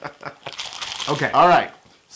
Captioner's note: laugh